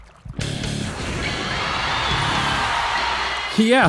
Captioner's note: crowd cheering and screaming